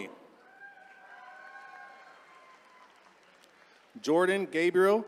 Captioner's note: attendees cheering